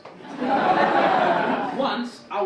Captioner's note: audience laugh